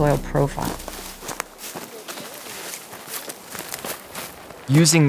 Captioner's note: footsteps